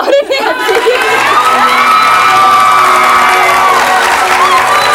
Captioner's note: audience cheers